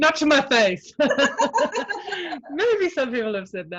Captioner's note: both laugh